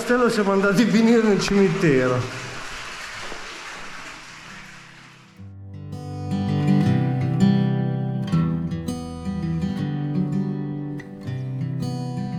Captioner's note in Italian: Applauso